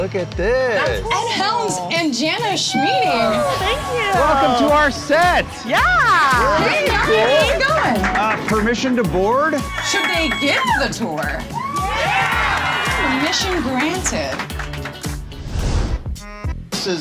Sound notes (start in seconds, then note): 5.3 group applauding; 14.4 group applauding; 15.8 upbeat music